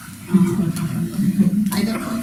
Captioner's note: laughing